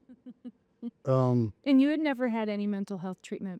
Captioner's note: laughing